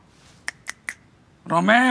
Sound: snapping fingers

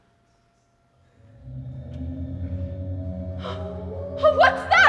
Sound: moaning sounds

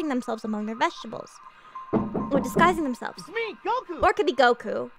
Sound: knock knock knock

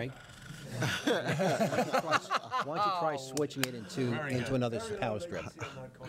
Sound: laughing

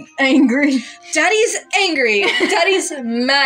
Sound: laugh

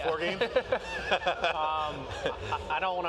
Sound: laughing

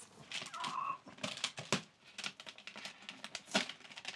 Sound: paper ripping

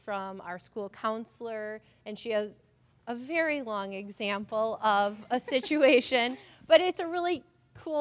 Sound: laughter

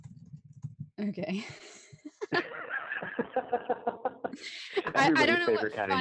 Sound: laughs

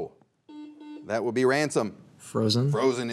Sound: buzzer beeps twice

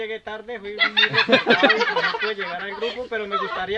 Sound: laughter

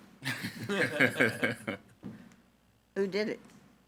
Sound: group laughing

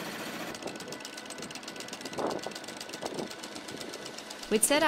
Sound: wind blowing

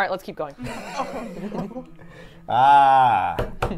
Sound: both laugh

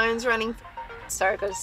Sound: phone rings

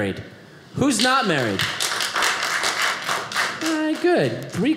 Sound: audience applauding

